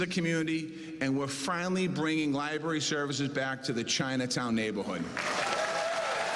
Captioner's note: cheers and applause